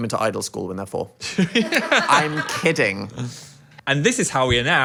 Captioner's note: crew laughs